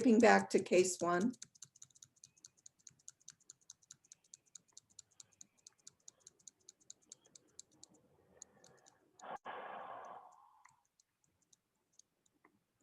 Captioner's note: keyboard tapping